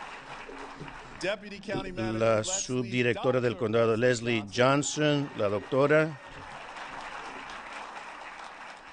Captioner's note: applause